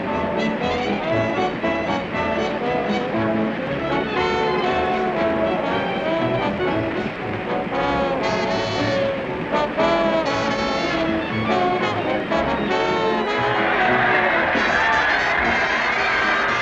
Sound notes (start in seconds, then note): 12.5 all cheering